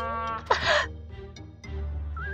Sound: laugh

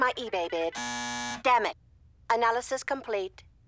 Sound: buzzer sounds

